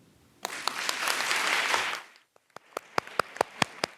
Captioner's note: audience applauding